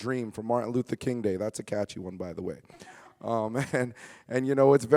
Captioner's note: chuckles